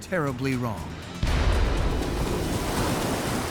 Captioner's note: loud bang